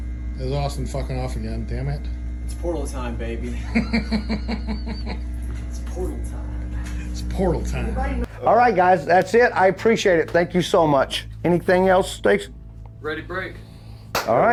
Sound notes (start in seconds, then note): 3.5 laughing